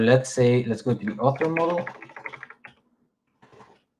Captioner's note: keyboard clacking